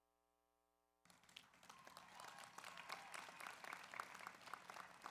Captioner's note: audience applauds